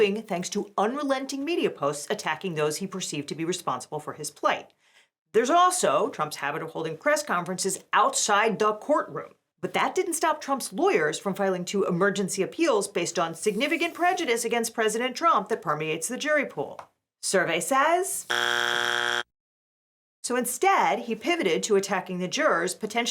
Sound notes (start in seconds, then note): 18.2 buzzer buzzing